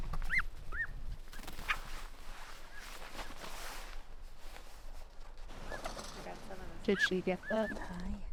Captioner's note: bird calls